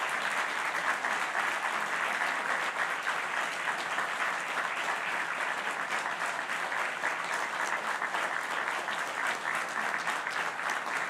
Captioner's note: applause